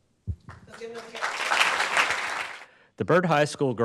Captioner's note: audience claps